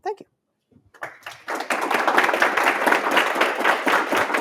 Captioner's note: applause